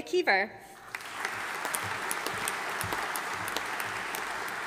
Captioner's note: audience applauding